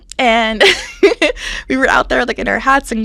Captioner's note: laughs